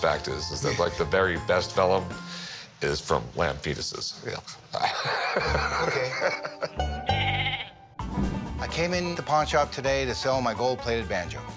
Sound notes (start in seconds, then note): 4.7 laughs; 7.1 lamb baaing